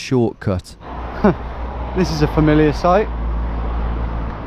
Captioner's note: chuckles